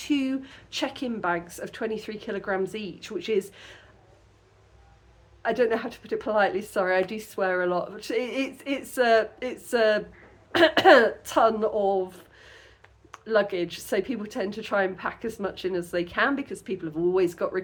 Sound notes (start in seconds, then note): 10.0 clears throat